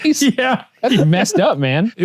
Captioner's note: laughs